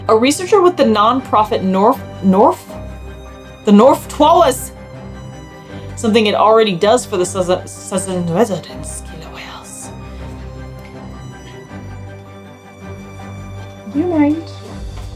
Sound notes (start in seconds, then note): 2.9 background music; 4.9 background music; 9.4 french accent; 10.3 background music; 14.9 background music fades out